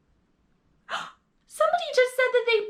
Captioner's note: gasping